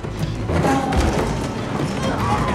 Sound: creaking

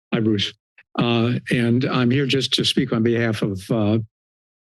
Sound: laughs

